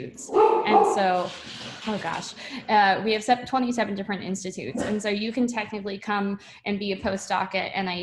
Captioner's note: dog barking